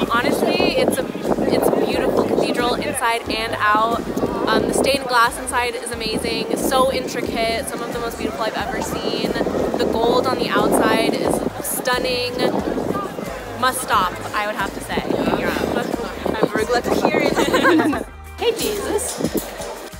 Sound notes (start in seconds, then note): 17.2 both laughing